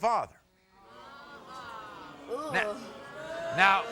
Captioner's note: crowd groans